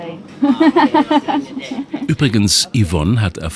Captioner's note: laughs